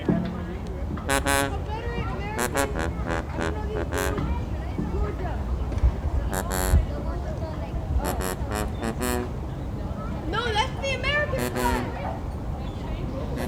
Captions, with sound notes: I don't know that one. - Georgia. [tuba music] - Confederate. American. I know this one. - Georgia. [chatter] - No. That's the American flag.